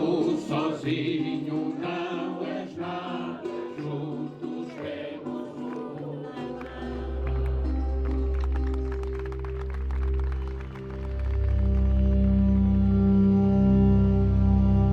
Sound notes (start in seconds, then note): 7.4 applause; 10.6 tense music